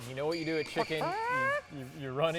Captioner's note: imitates chicken sound